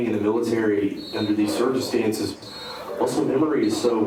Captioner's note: whistle blowing